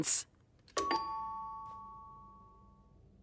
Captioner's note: doorbell rings